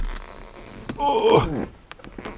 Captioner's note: effort noises